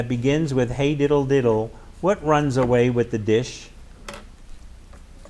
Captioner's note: none